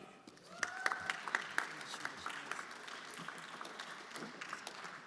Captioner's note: everyone applauding